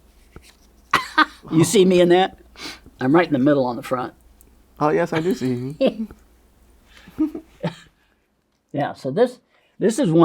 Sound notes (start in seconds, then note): 0.9 laughs; 7.0 laughs